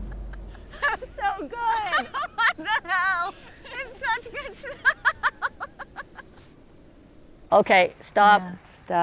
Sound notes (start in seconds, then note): 3.3 laughs